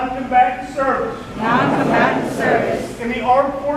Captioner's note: crowd